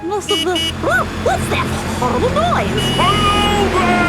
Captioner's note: honking